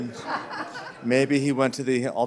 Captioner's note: laughter